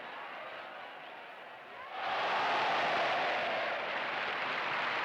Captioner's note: applause